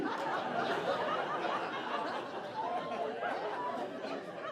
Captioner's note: audience laughing